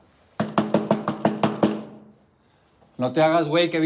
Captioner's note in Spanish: Toques en la puerta